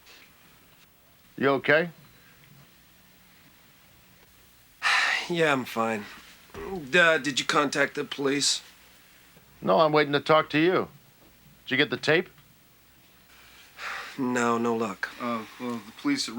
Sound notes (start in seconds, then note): 6.5 sighs; 13.8 sighs